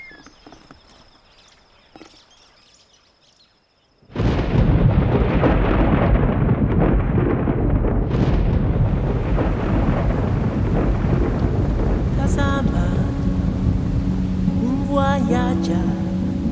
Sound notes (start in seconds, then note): 0.0 birds chirping; 4.1 thunder storm; 11.8 tribal singing